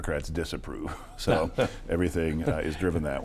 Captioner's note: laughing